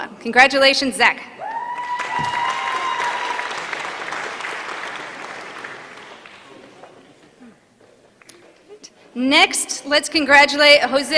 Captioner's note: applause